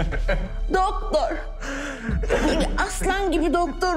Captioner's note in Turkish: Mehmet Ali ağlıyor